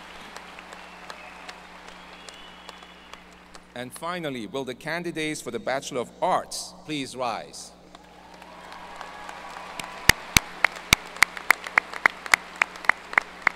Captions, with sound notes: And finally, will the candidates for the Bachelor of Arts please rise. ( audience cheers and applause )